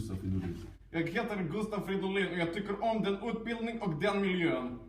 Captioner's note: with a heavy Russian accent